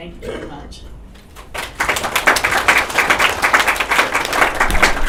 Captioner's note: applause